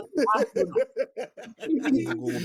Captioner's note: laughing